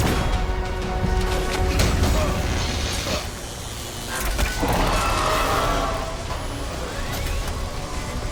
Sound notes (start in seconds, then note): 1.6 electricity buzzing; 2.3 creature roaring